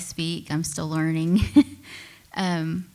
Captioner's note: laughs